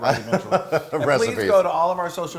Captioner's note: laugh